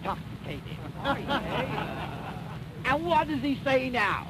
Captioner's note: laughter